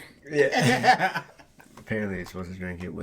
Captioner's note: laughing